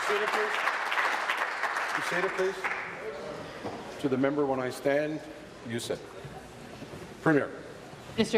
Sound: applause

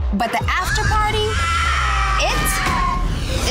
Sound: shouting

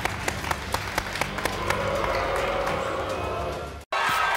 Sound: audience booing

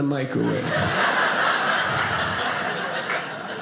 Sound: audience laughing

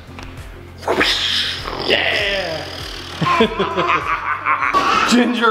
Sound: goofy noises and giggling

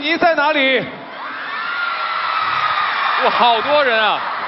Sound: scream

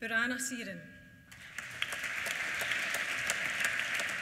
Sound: applause

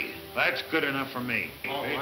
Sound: men chattering

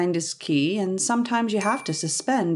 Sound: ping

